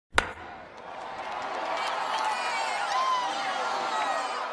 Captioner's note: bat hitting ball and cheering